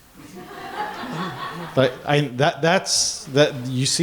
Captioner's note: laughing